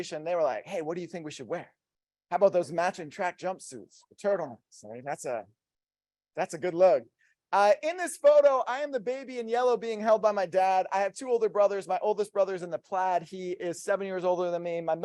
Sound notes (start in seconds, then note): none